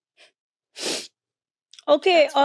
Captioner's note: nose sniffling